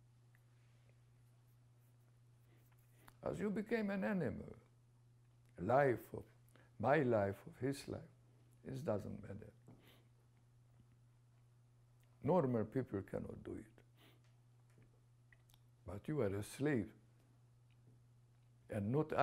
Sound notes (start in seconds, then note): 10.1 pauses for 3 seconds